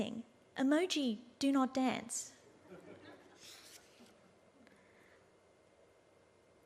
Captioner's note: audience laughs